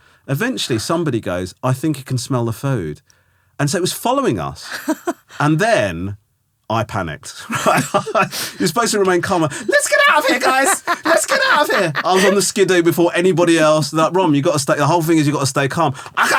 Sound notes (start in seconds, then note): 4.7 laughing; 7.4 Romesh laughing; 11.0 laughing